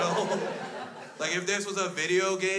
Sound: crowd laughs

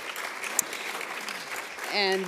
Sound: applauds

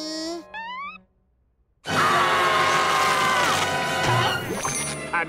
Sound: screaming

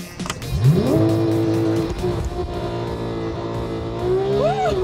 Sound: engine revs

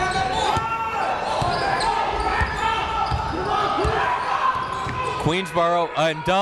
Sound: crowd talking; coaches yelling

